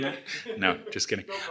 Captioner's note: laughs